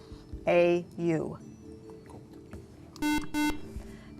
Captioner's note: buzzer